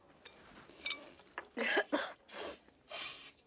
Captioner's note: coughing